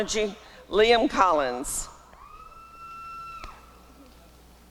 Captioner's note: applause and cheering